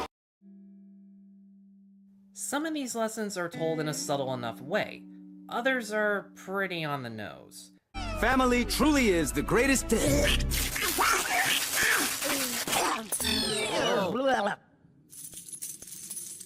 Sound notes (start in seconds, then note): 10.0 Donald choking